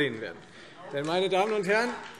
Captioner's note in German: Beifall Freie Demokraten und DIE LINKE